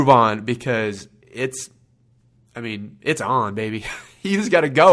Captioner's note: laughs